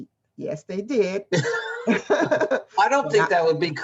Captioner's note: both laugh